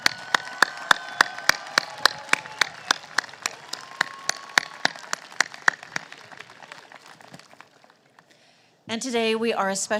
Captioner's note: applause